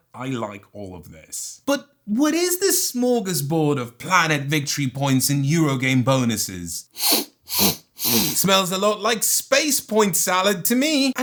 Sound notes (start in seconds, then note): 6.9 sniff, sniff, sniiiiiff